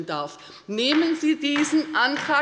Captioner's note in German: Beifall bei der LINKEN